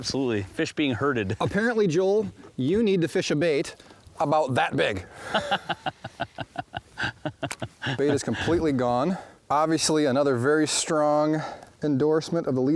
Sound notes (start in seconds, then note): 5.2 laughing